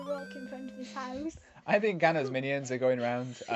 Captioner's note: laughs